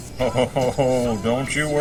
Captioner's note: chuckling